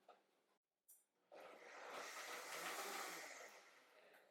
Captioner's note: blender